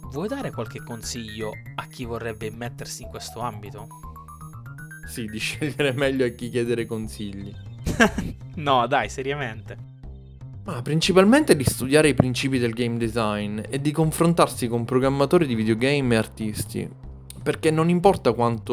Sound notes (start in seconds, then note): 7.8 laugh